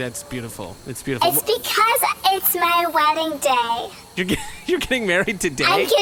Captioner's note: laughs in surprise